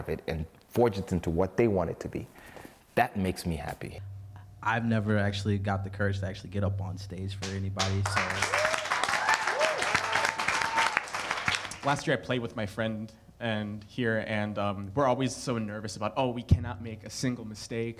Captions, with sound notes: and forge into what they want it to be, that makes me happy. I've never actually got the courage to actually get up on stage for anybody, so-- [cheering] Last yeah, I played with my friend here. And we're always so nervous about, oh, we cannot make a single mistake.